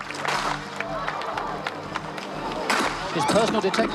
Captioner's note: gun firing